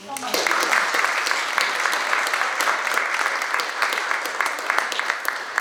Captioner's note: audience applauding